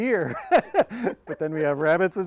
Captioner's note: both laughing